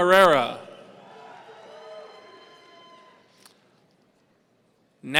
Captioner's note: audience cheering